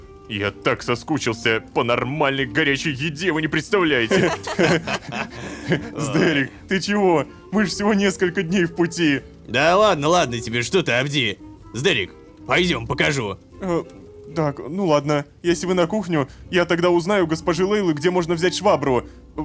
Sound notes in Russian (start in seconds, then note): 4.0 Смех